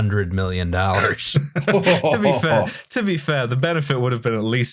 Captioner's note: laughter